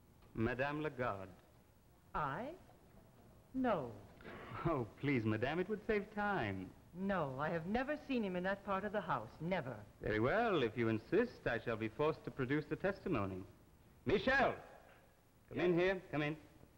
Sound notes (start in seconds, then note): 4.2 D'Arnault's voice, sighing